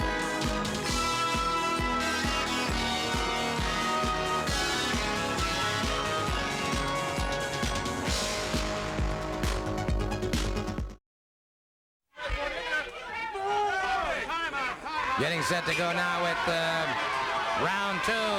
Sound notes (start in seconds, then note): 3.4 upbeat music continues; 12.2 crowd yelling